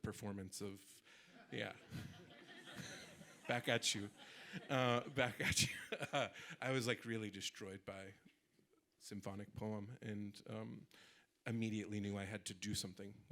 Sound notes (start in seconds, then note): 1.3 audience laughing